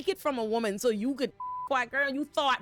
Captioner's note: beep